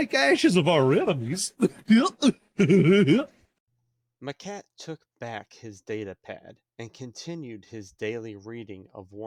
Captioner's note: laughter